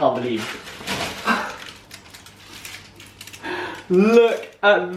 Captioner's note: shocked gasp